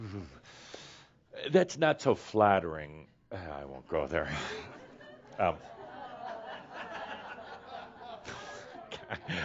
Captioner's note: laughter